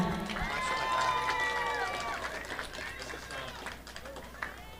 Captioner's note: audience applauding